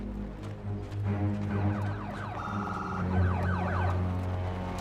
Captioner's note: sirens